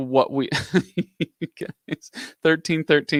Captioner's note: laughs